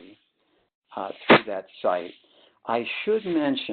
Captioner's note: sliding static